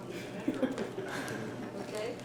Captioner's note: laughter